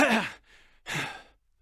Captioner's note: sigh